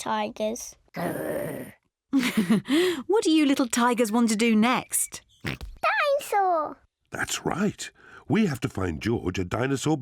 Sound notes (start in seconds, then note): 1.0 growls; 2.1 chuckles; 4.4 oinks